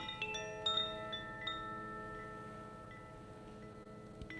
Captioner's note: gentle chimes